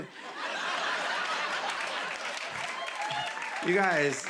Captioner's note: laughter